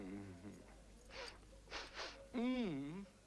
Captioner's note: Rothrar chuckles; Rothrar sniffing; Rothrar groans